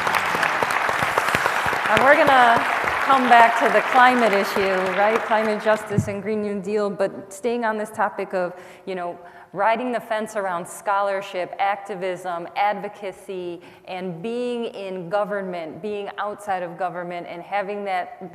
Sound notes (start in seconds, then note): 2.4 applause